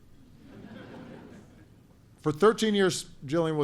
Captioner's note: laughter